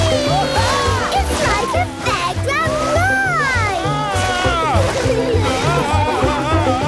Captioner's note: screams, laughs; screams, laughs